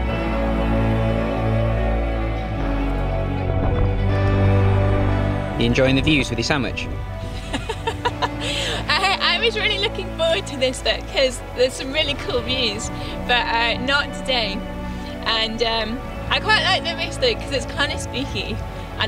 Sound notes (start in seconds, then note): 7.3 laughs